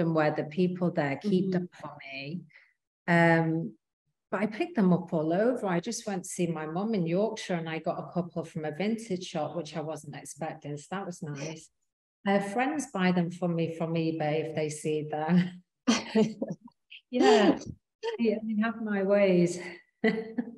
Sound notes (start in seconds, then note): 17.2 both chuckling